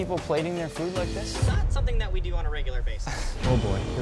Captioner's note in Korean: 웃음